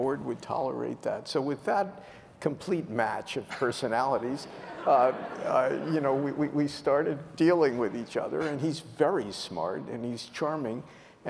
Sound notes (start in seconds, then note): 4.4 laughter